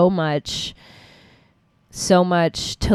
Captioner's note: deep breath